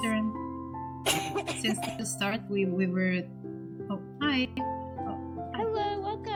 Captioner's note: STONE coughs